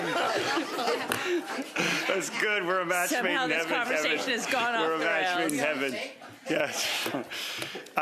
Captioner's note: laughter